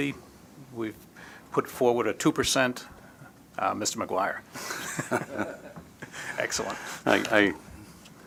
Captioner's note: laughter